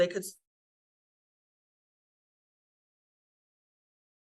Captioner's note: audio cuts out